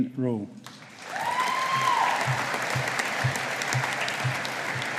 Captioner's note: audience applauding